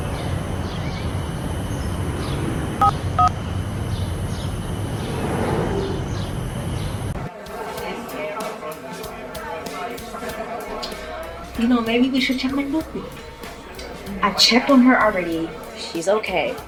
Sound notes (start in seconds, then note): 3.0 phone buttons beeping